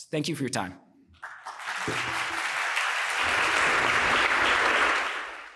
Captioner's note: applause